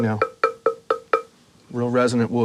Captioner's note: knocking